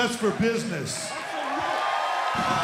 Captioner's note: cheers and applause